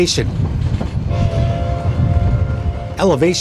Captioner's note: train whistle